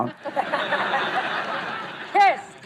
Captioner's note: laughing